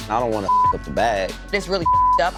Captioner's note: beep